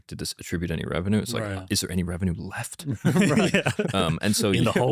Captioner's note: laughs